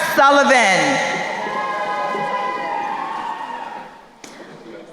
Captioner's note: crowd cheering